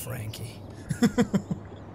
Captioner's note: chuckles